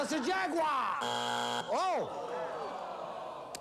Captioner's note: buzzer